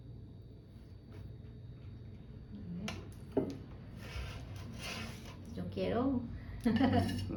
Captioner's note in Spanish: risas jajaja